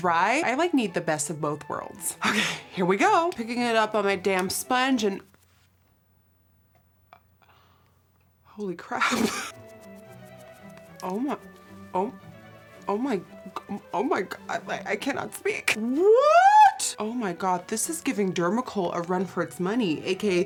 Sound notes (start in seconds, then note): 8.2 laugh gasps